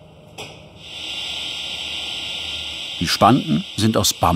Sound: engine hum

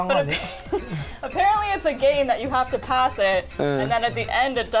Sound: laughs

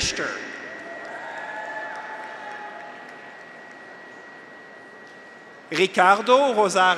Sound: graduates cheer; audience applauds

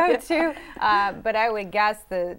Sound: laughter

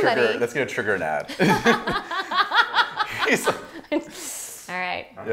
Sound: laughing

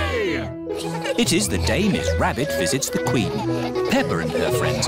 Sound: all giggling

